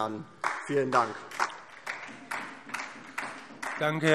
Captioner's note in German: Beifall DIE LINKE und vereinzelt SPD